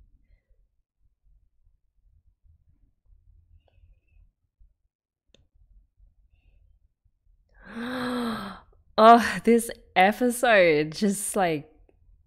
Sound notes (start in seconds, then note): 7.6 breathes in